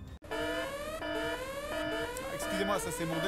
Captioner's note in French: Bruits d'alarmes